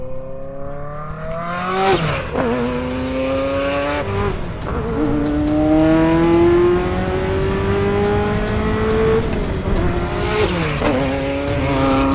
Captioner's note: F40 gets full throttle